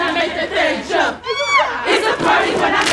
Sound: screaming

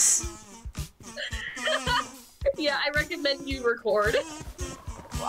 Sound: laughs

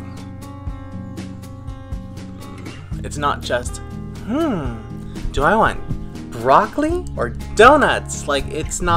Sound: in a superficial voice

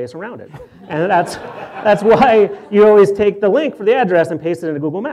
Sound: laughs; audience laughter

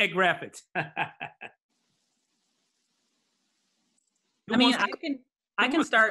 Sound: laughs

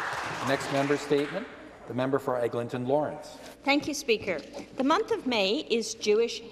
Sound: some Applause

